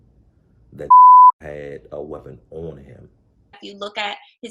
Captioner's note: beep